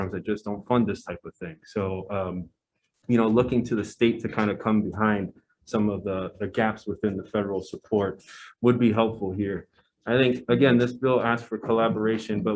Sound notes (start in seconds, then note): none